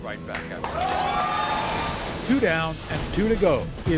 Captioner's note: applause